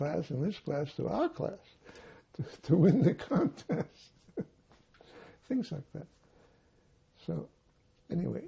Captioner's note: laughing